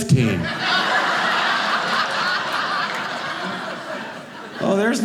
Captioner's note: audience laughing